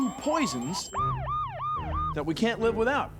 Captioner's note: <i> siren blaring</i>